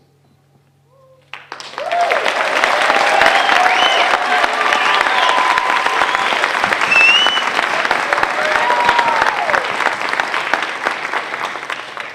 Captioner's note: applause